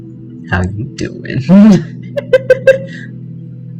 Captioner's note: Joey Tribbiani voice; laughter